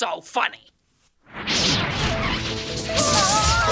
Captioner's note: zapping